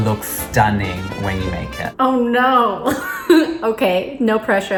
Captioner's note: laughs